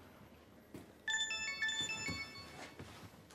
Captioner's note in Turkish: Telefon zili sesi